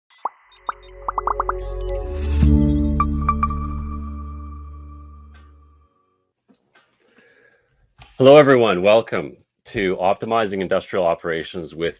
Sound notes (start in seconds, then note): 0.4 dynamic music; 0.5 bubbles popping